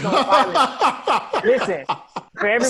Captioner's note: laughs